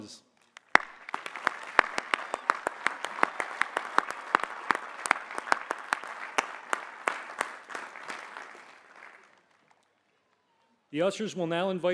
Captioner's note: applause